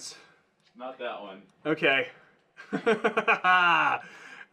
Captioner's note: laughing maniacally